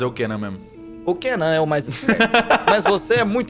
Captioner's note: laughs